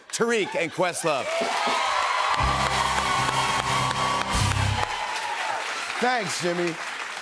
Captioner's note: cheers and applause